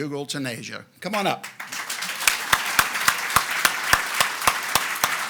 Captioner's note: audience applauds